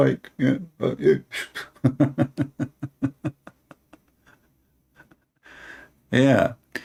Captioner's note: Ketawa